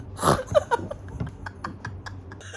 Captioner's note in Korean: 웃음소리